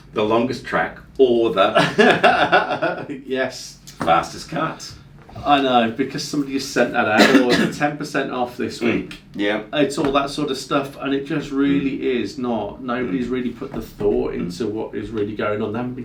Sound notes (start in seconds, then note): 1.7 chuckles